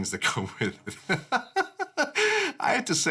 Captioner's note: chuckling